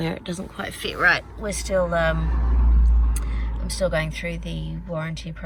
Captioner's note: car goes past